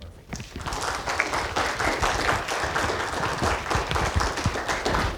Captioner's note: audience applauding